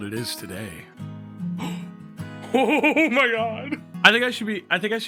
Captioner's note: gasps and laughs